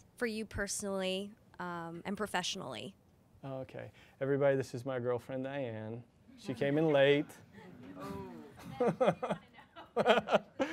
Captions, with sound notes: For you personally and professionally? - Everybody, this is my girlfriend Diane, she came in late. (chuckles)